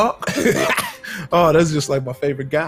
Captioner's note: laughs